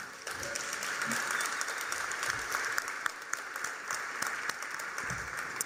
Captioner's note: applause